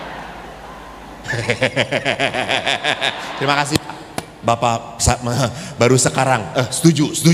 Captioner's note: laughs